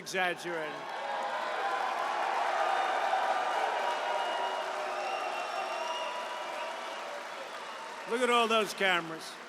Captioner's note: applause